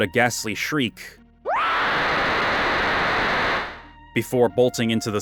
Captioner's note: screeching